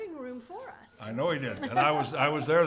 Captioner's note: laugh